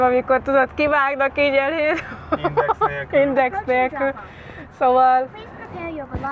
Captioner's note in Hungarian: nevetés